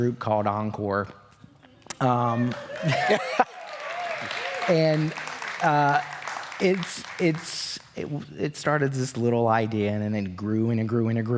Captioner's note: cheers